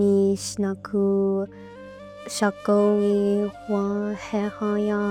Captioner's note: speaking in Dakota language